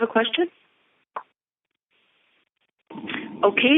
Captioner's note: silence